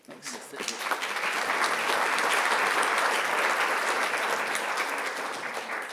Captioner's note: attendees applauding